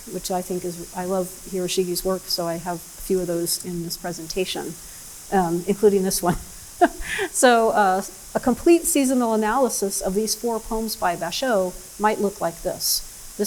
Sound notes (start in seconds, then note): 6.8 laughs